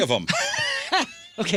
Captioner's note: laughing